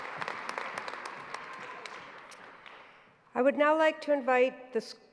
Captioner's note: applause